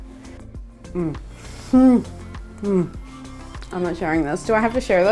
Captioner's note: humming